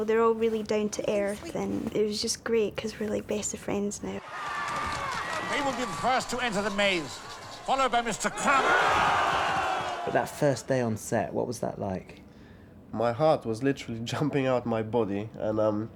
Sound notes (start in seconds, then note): 4.2 all cheering